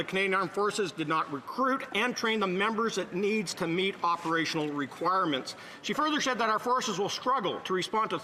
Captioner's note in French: voix de l'interprète